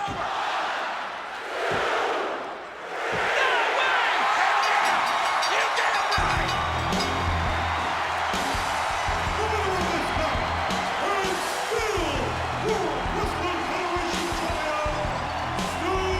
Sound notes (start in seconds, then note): 4.6 bell rings; 6.9 upbeat music; 8.3 audience cheers